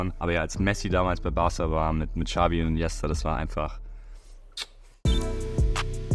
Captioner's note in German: macht ein Kussgeräusch